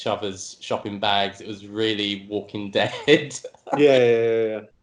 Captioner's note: laughing